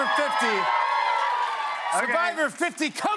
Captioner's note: cheers and applause